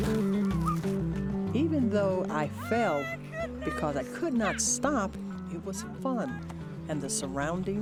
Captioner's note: crashes